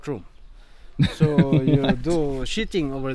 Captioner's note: laughing